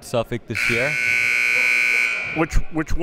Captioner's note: buzzer